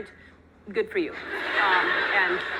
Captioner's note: audience laughing